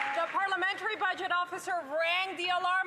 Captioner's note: some Applause